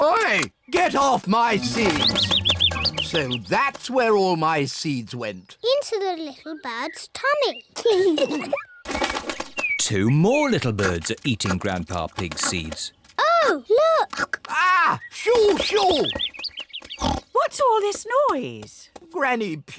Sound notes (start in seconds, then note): 1.5 bird tweets; 8.4 both giggle; 16.4 birds tweet; 17.0 oinks